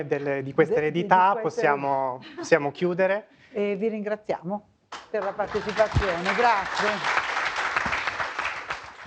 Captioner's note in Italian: Applauso